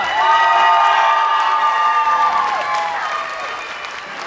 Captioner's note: applause